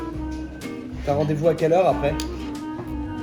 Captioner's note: French